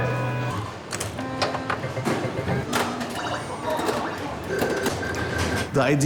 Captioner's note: games click, buzz, and chime